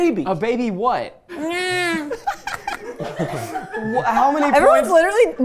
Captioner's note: laughing